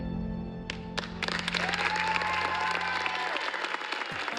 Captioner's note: cheering and applause